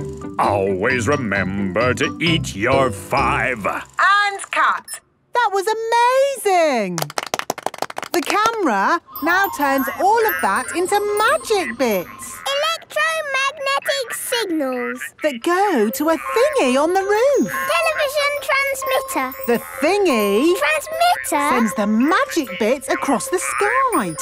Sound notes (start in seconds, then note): 6.9 applause